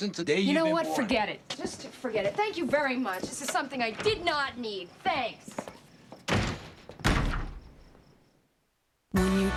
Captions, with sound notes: You know what? Forget it. Just forget it. Thank you very much. This is something I did not need. Thanks. ( slams ) ( kicks )